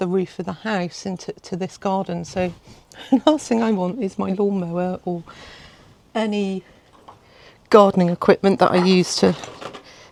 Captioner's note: laughs